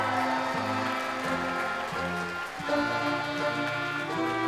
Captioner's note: crowd cheering